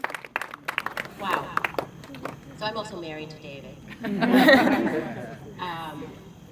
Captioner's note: laughter